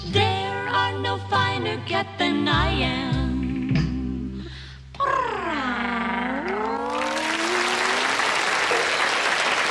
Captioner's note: purring; applause